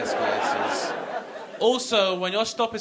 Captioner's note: audience laughing